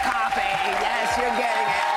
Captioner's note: cheers and applause